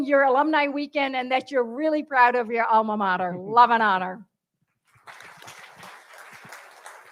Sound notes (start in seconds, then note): 4.8 applause